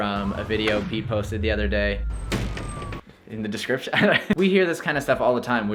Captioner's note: chuckles